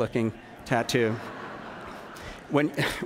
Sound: laughter

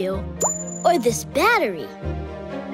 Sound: none

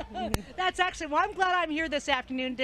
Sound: laughing

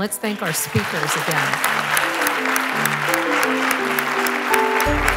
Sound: applause

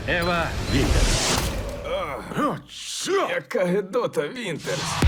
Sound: group groans

